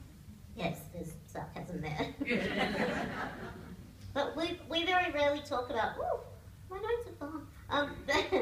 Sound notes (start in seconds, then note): 5.8 laughter